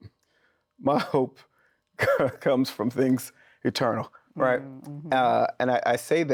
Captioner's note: laughs